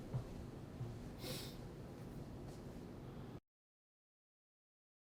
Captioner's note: golpeteo de pies; olfateando